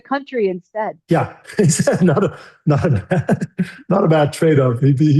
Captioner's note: laughs